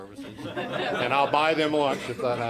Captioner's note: audience laughing